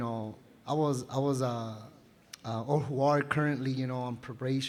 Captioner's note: non-english speech